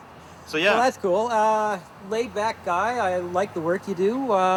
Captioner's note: laughs